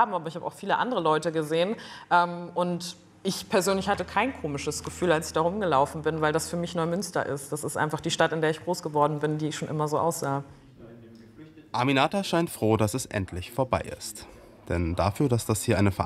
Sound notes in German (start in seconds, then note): none